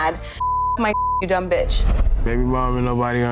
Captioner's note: beep